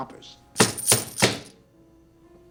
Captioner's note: coins jingling; bangs On Table